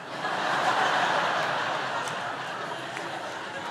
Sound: laughter

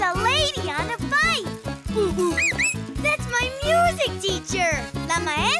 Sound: hooting, whistling

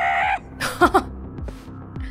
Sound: chuckles

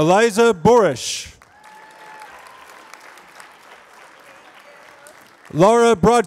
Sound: applause

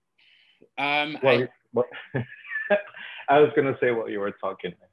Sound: laughs

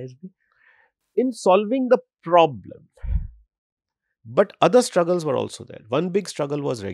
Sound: speaks hindi

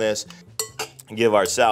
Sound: spoon clinking

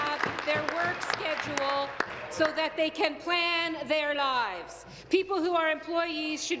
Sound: applause

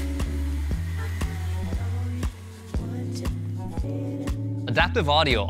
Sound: leaf blower muted; leaf blower whirring

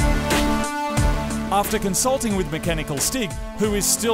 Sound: voice over

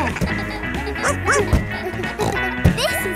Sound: barks; snorts

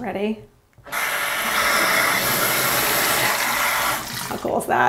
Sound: water splashing

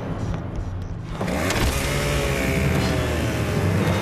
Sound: chain saw revving

